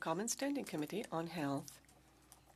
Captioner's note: speaking French